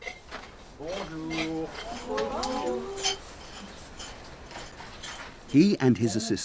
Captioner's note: archeologists chatting in foreign language